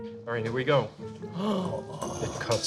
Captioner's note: gasps